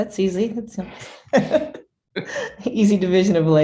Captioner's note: laughs